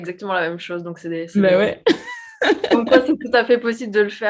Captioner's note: laughs